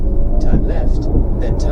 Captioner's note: sound of engine and wiper blades